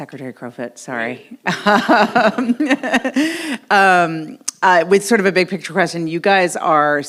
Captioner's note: laughs